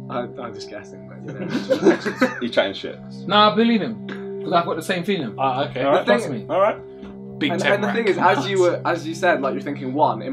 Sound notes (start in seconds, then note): 1.2 all laughing